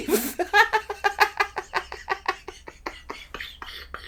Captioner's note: laughing